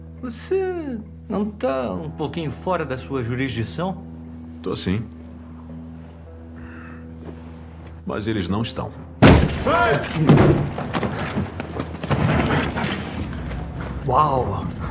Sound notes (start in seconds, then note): 9.2 man shouts; 10.9 guns cocking